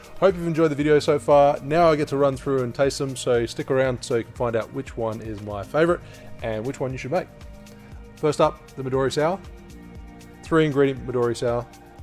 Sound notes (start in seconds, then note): none